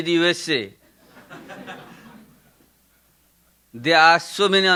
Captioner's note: audience laughing